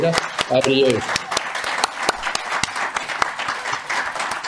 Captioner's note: applause